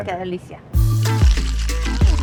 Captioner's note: speaks Spanish; upbeat music